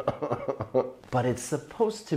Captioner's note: chuckling